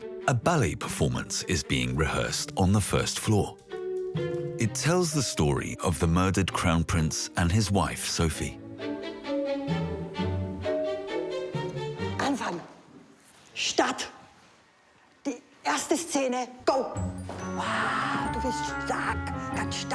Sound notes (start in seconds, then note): 9.5 gentle music; 12.2 speaking foreign language